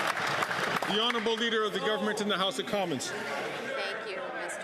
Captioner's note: some Applause